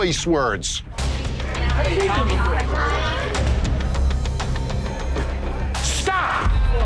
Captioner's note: dramatic instrumental music; bar chatter